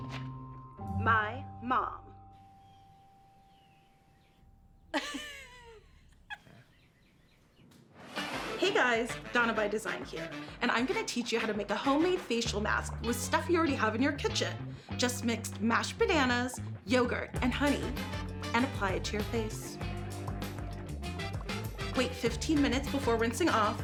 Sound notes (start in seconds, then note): 4.9 laughing